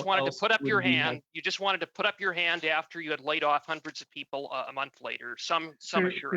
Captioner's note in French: voix de l'interprète